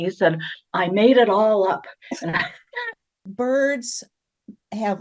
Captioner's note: laughter